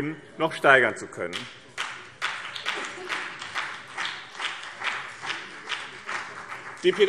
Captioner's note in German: Beifall BÜNDNIS 90/DIE GRÜNEN